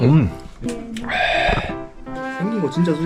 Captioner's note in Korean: 아저씨소리